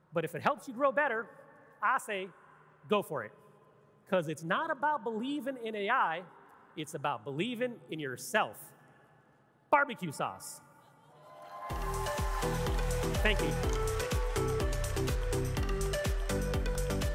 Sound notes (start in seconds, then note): 11.2 audience clapping and cheering; 11.6 lively music